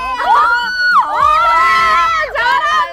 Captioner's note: Members screaming